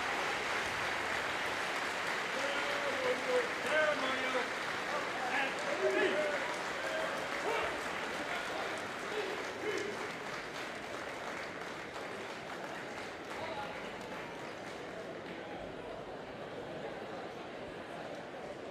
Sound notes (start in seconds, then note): 3.1 soldiers yelling commands; 14.1 audience chattering